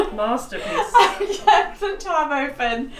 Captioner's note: laughs